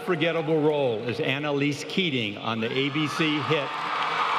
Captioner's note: applause